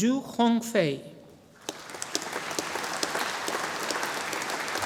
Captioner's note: audience applauding